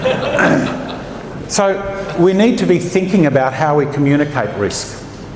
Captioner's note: laughter